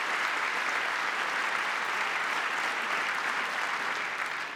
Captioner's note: applause